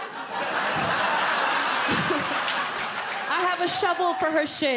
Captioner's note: audience laughing